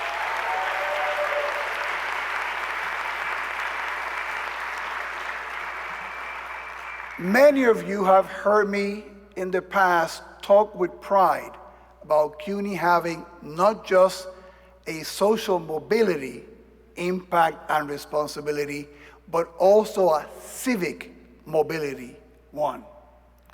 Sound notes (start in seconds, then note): 7.8 applause